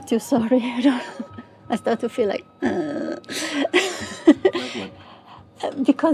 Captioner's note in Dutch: lacht